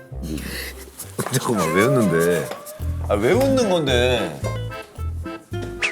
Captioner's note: frustrated